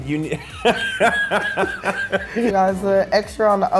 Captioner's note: laughing